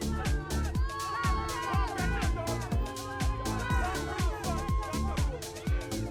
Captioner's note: crowd shouts and cheers